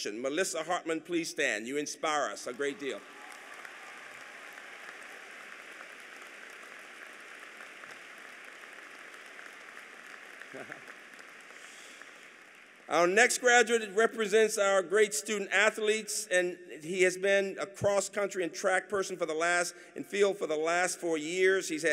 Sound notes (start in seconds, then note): 2.2 applause